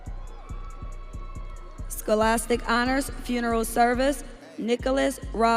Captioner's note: audience cheering